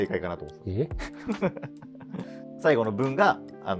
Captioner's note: laughing